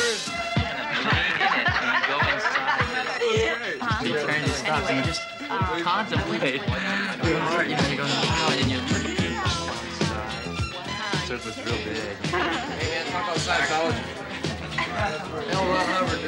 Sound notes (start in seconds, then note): 2.4 laughing; 5.3 party chatter; 9.0 funky music; 13.4 party chatter